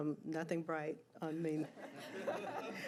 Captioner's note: laughter